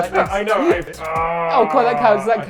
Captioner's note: groaning